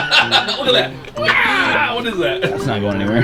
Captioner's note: laughing